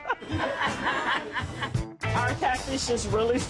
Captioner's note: laughs